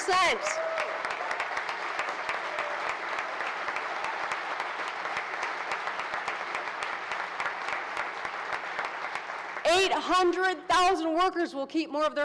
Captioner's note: applause